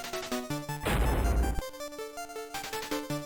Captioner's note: thud